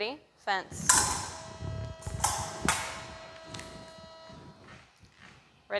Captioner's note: clicking